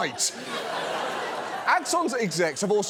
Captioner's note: audience laughs